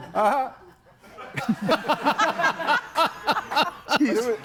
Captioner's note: audience laughs; group laughs